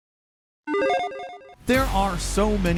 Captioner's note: gentle chimes